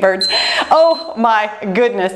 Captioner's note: timer beeps